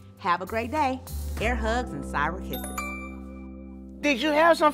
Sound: alert chimes

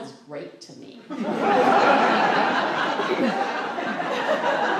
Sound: laughter

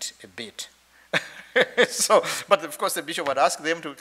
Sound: chuckles

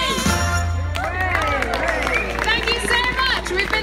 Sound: applause

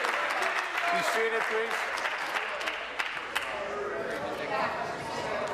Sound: applause

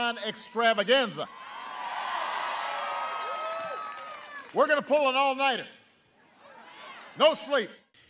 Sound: cheering and applause

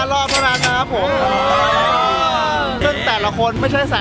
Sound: cheering

